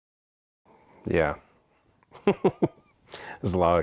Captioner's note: laughs